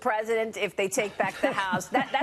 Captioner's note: laughter